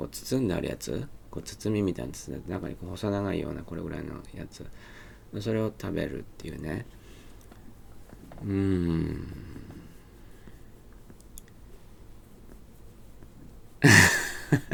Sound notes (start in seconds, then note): 11.1 some more of cute cat scratching noises; 13.8 chuckles